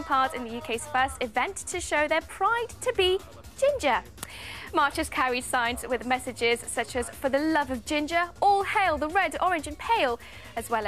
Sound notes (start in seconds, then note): 0.0 crowd laughs